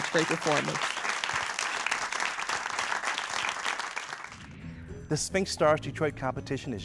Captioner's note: applause